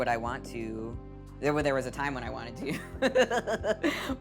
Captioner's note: laughing